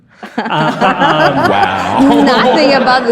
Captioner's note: audience laughs